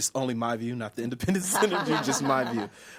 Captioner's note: he laughs